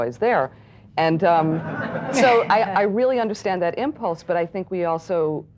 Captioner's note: audience laughs